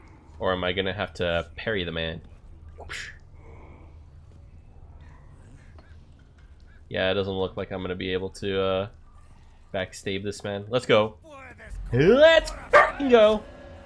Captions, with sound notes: Or am I gonna have to parry the man? *Mouth noises* Yeah I don't know if I'm going to be able to uuuhh... backstabe this man. Let's go. Let'ssss BARKING go!